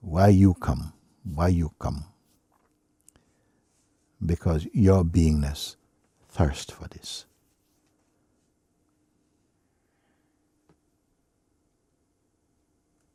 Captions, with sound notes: Why did you come? Why did you come? Because your being-ness thirsts for this. [silence]